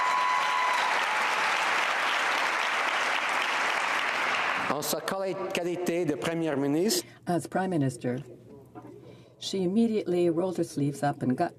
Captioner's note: cheering and Applause